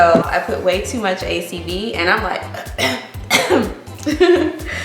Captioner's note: clears throat